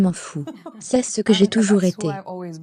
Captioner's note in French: en riant